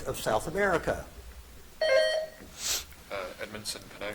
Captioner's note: buzzer dings